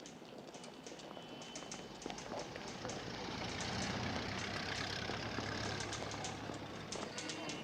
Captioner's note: traffic rumbling quietly; typewriter keys tapping